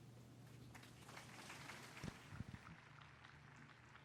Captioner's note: applause